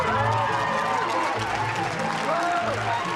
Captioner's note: cheers and applause